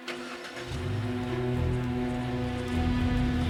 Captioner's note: engine whirs; tense music